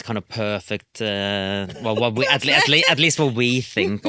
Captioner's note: laughing